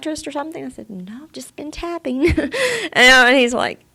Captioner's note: she laughs